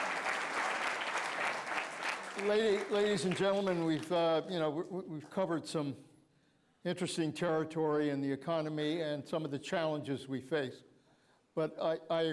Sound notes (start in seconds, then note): 3.6 applause